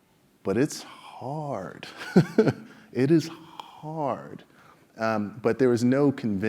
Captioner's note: laugh